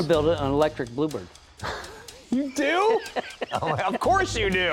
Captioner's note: laughing